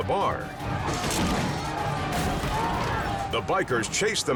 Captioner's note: people chanting